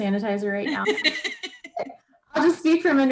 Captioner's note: laughs